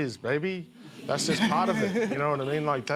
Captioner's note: laughter